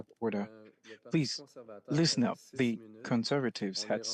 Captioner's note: speaking French